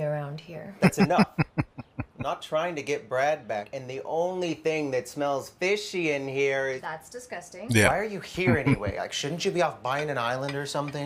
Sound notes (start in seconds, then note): 0.8 laughing; 8.4 chuckling